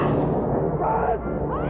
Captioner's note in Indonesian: Jeritan